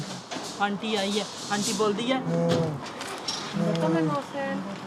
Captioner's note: speaking in a foreign language